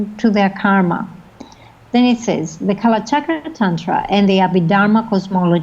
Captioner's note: foreign language